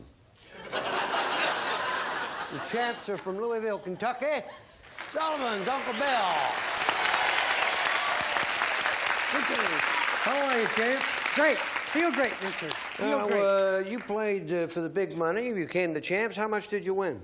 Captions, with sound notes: -Reach out and touch some Juan. The champs are from Louisville, Kentucky. The Sullivans. Uncle Bill. (applause) -Good seeing you. -How are you, champ? -Great! Feel great, Richard. Feel great. -Now, you played for the big money.